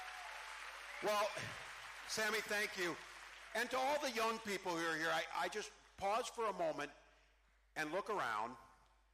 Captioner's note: cheering